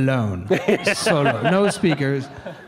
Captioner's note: laughs